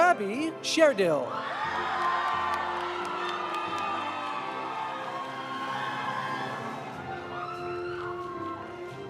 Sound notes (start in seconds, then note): 1.4 audience cheering; 1.6 audience applauding